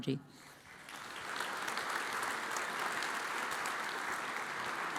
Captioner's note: audience applauds